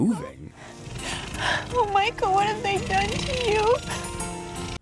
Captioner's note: snivels